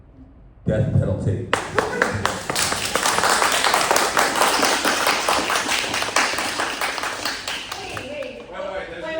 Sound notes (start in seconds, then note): 1.5 more applause